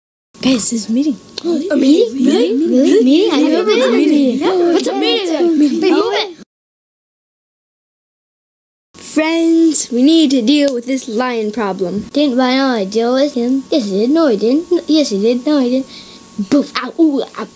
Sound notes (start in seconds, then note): 0.5 excited chatter